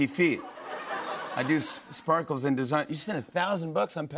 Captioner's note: laughter